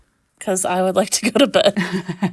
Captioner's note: laughing